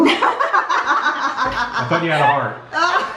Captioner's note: laughs